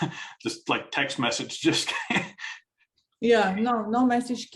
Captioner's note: chuckles